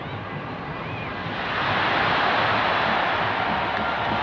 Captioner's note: crowd cheers